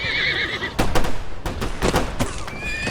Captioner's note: horse noises; gunshots